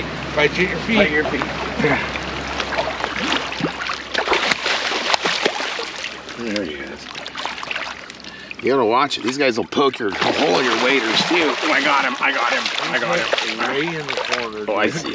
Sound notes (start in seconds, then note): 5.6 fish splashing; 13.1 fish splashing